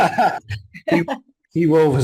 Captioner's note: laughs